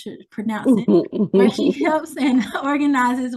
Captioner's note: laughs